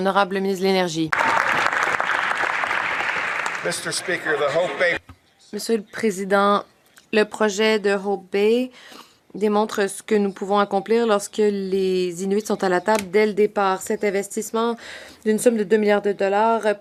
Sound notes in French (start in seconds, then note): 5.0 voix de l'interprète